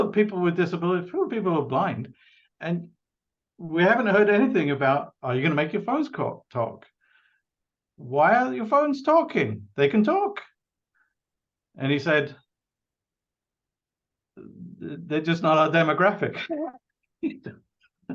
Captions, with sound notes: people with disability, full with people who are blind, and we haven't heard anything about are you gonna make your phone talk? Why aren't your phone's talking? They can talk." And he said, "They're just not our demographic."[Laughs]